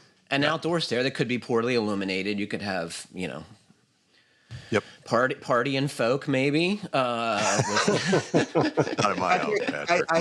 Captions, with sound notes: --an outdoor stair that could be poorly illuminated. You could have partying folk maybe with-- [LAUGHTER] Come on now, Patrick.